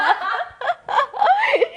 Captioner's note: laughs